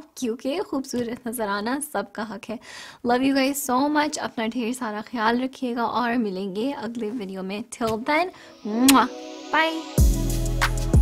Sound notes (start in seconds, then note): 8.8 kisses